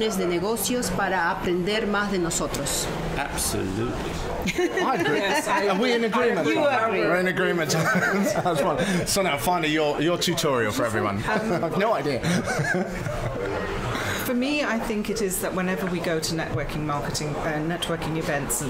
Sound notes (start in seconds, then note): 5.0 spanish; 7.7 laugh; 12.0 laughs